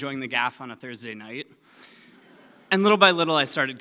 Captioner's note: laughing